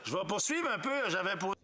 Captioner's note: speaking French